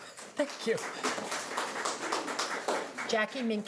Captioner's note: applauding